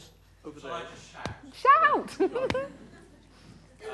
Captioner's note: laughs